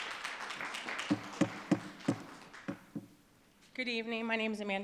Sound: audience applauding

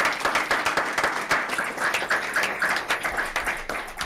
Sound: applauding

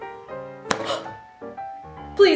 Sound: quick gasp

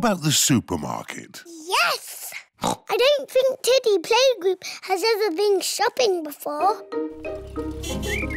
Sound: oinks

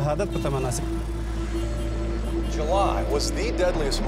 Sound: cars honking

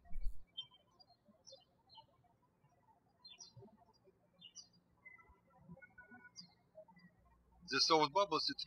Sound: birds chirping

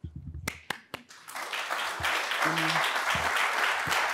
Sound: applause

